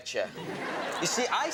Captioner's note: audience laughs